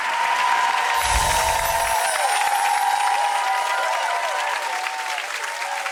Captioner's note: audience wooing and clapping